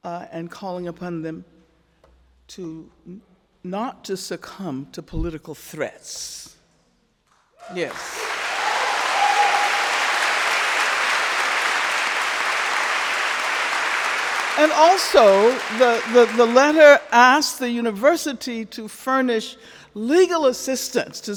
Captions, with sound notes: and calling upon them to not to succumb to political threats," yes. (crowd cheering) (crowd clapping) and also the letter asked the university to furnish legal assistance